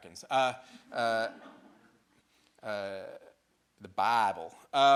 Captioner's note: audience laughing